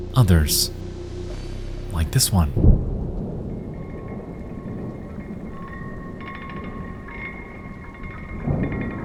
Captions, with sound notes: Others, like this one. (thunder rumbling)